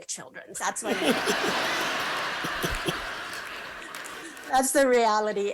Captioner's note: laughter